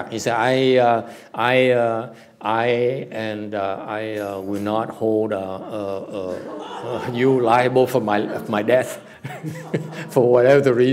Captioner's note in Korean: 웃음